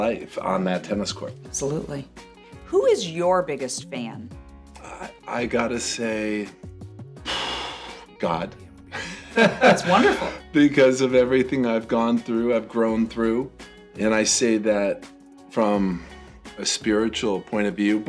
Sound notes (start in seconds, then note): 7.2 sighing; 9.0 laughing